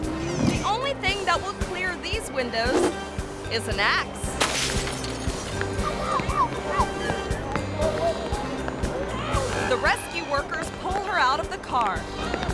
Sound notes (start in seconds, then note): 4.3 glass shatters; 5.6 rescuers clamoring; 5.9 driver screaming